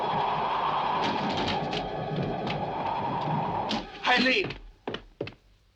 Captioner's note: windows bang